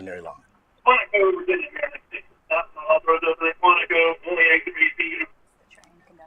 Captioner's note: broadcast radio chattering